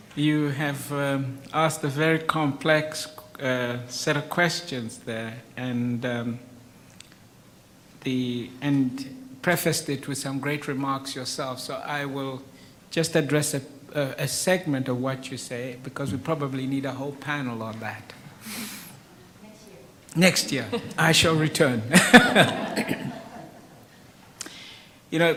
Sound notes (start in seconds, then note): 20.5 laughs; 21.9 audience laughs